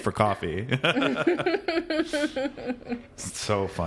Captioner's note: both laughing